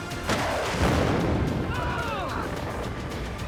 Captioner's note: both scream